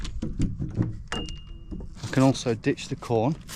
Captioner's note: bell dings